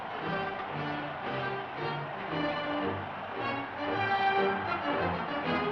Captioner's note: crowd cheering